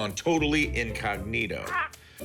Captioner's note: bird squawks